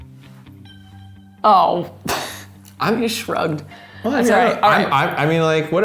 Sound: sighs

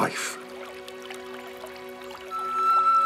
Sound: water flowing

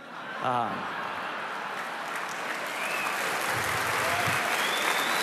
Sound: laughter; applause

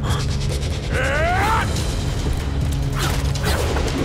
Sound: grunting

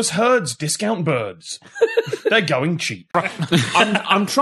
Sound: laughter

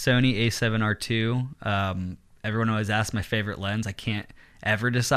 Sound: none

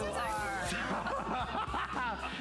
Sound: laughter

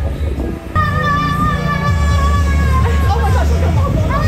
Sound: screaming

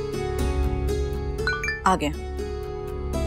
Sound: mobile chiming

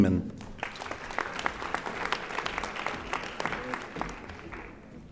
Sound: audience applauding

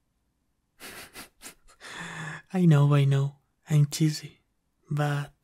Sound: laughs

